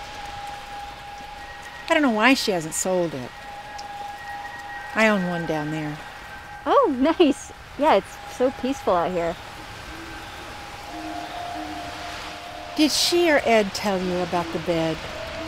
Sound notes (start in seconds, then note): 0.1 eerie music; 9.8 owl hooting